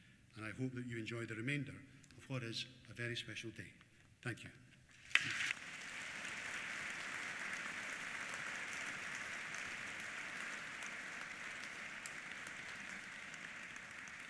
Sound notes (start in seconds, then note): 5.4 applause